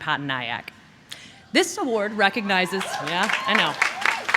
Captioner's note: applause